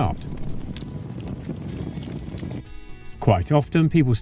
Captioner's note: sound of flames